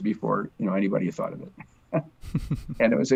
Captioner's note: laughs